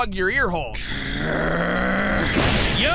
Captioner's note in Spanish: Gruñidos